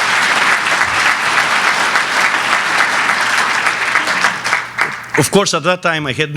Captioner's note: applause